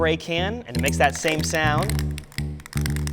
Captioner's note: can rattles